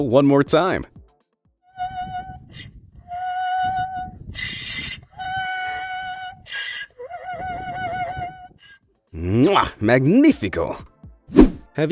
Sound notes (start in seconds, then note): 2.2 donkey braying loudly and gently